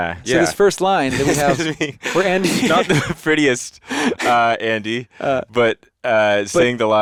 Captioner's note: chuckles